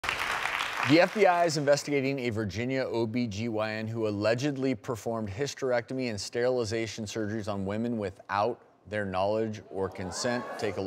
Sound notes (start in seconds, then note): 0.0 audience applauding